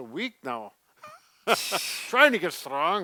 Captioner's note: laughs